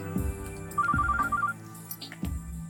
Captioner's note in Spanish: Suena el celular